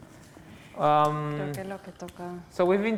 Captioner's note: non-english speech